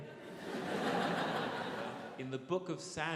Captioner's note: audience laughs